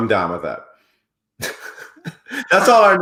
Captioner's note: laughs